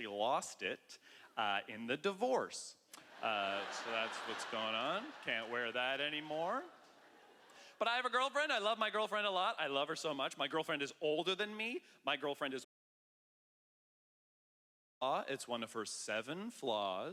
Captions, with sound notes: lost it in the divorce. (laughter) So that's what's going on. Can't wear that anymore. But I have a girlfriend. I love my girlfriend a lot. I love her so much. My girlfriend is older than me. My girlfriend is older than I am. .